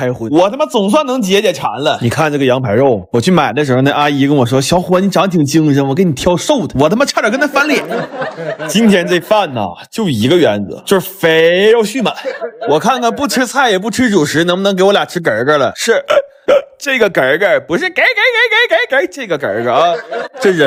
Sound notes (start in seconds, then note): 16.0 burp